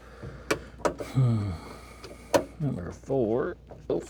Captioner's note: sighs